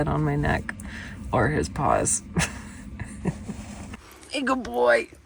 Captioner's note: chuckles